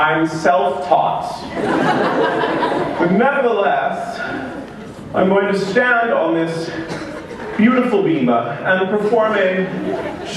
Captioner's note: laughter